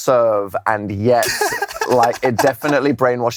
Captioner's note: laughs